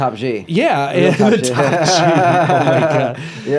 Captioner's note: laughs